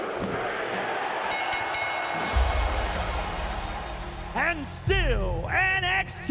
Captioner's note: bell ringing